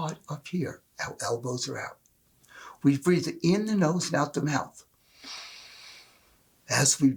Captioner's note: inhale